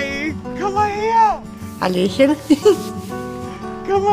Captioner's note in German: Sie kichert